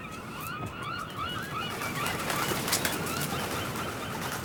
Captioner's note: birds squawk